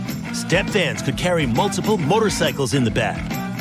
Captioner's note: none